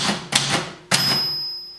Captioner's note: typewriter clicking; typewriter dings